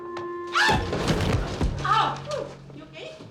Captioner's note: lighthearted music; yelling